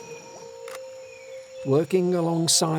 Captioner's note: camera clicks